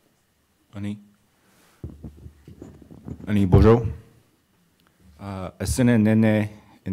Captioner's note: speaking in Indigenous language